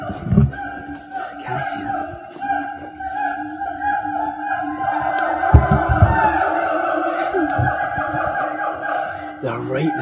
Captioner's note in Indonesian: Suara Monyet